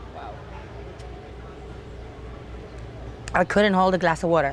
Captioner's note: drinking